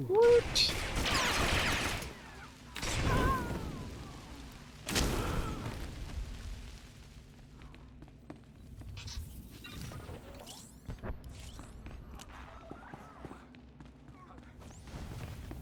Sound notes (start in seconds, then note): 3.1 gunshots